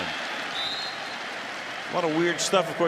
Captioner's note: whistle